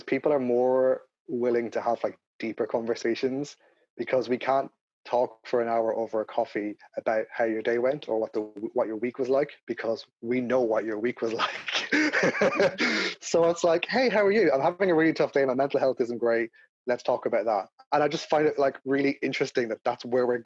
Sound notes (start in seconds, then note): 11.3 laughing